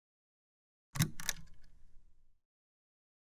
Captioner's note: click